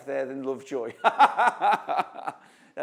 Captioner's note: laughs